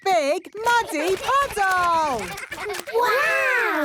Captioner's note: splashing